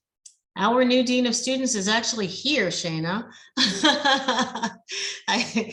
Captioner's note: laughs